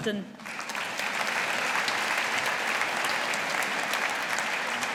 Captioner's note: audience applauding